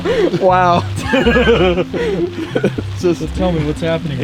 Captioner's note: both laughing